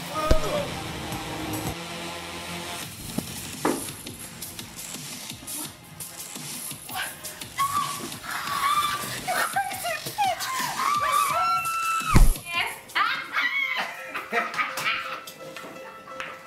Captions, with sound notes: (dramatic music) (Peaches screaming) - You crazy bitch! (Pearl screaming) (all laughing)